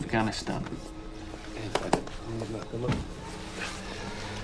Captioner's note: speaking foreign language